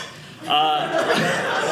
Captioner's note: audience laughing